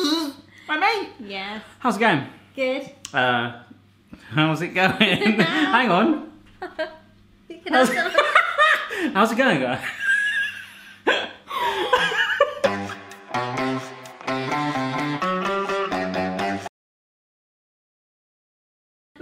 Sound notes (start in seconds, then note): 8.4 laughing; 11.6 laughing; 12.6 upbeat music